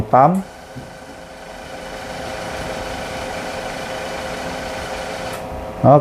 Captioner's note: printer machine noise